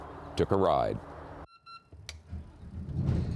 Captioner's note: beeps; motor starts